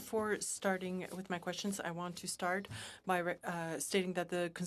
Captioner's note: speaking french